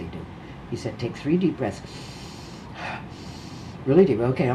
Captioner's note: inhales sharply